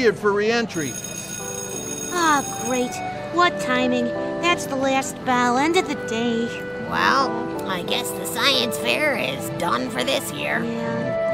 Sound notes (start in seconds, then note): 0.7 school bell